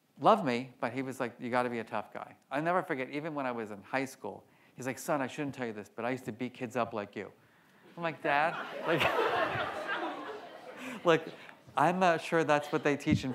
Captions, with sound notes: Loved me, but he was like, "You got to be a tough guy." I'll never forget, even when I was in high school, he's like, "Son, I shouldn't tell you this, but I used to beat kids up like you." I'm like, "Dad." (laughs) (audience laughs) Like, "I'm not sure that's what they teach